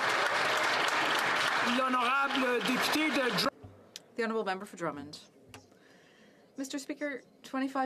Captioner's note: some Applause